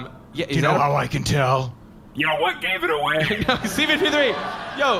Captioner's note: sarcastically